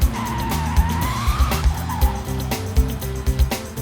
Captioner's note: screeching